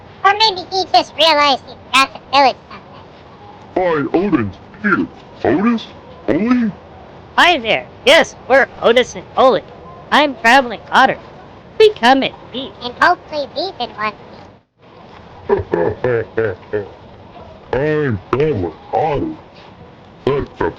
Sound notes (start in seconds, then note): 0.0 whispering to Ollie; 13.7 whispering to Otis; 20.3 laughing